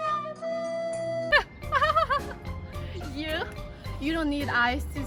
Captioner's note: hysterical laughter